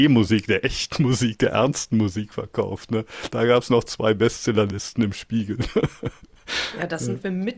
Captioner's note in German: gelächter